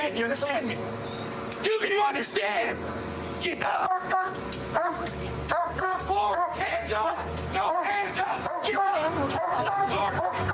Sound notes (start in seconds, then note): 4.7 barking